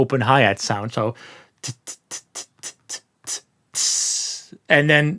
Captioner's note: mimic high hat sound